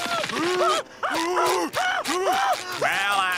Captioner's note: both screaming